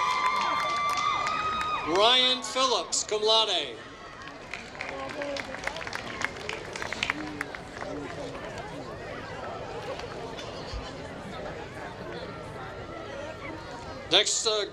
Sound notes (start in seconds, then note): 0.0 applause; 8.9 applause